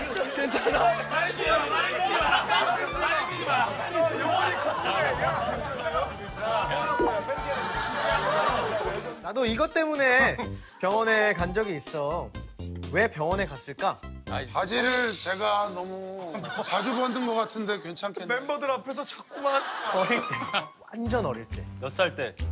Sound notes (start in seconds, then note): 6.8 crying because it's so funny